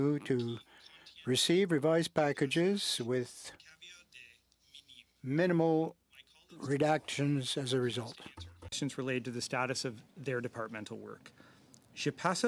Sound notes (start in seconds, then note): 8.3 speaking French